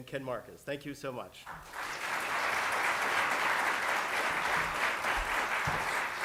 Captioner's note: applause